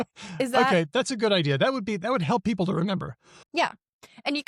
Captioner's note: laughs